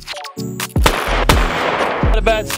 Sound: gunshots

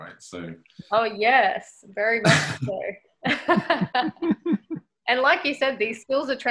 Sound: laughs

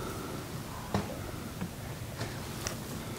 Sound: caller raking

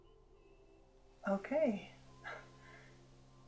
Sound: laughs

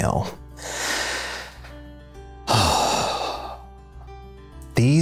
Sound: sighing deeply

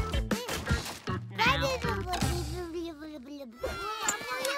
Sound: babbling; crying, babbling

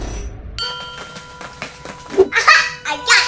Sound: mechanical whooshing; bell chimes

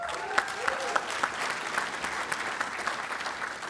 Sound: applause

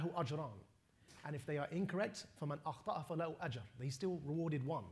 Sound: non-english; non-english

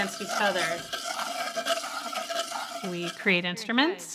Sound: bowls buzzing

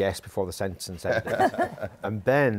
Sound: laughter

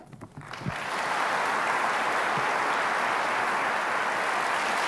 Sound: applause

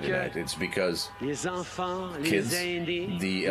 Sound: speaking French

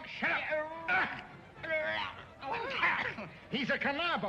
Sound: Whipsnade wailing

